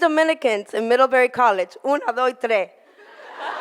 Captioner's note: in foreign language